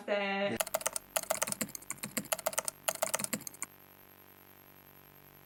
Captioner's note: keyboard keys clicking